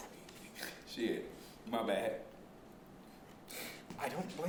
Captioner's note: laughing snort